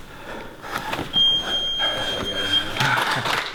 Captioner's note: beep